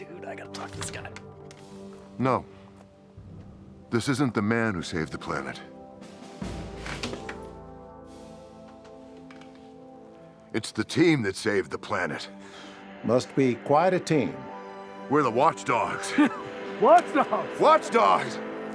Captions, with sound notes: - Dude, I gotta talk to this guy. - No, this isn't the man who saved the planet. It's the team that saved the planet. - Must be quite a team. - We're the Watchdogs. - (laughs) Watchdogs. - Watch dogs. - Yeah!